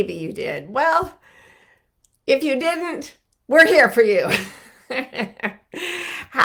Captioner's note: laughs